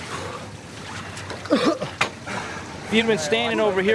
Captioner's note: coughs